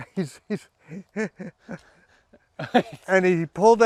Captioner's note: laughs